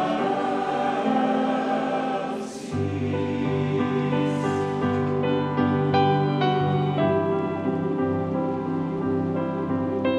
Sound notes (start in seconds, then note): none